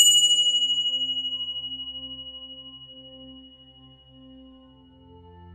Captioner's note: bell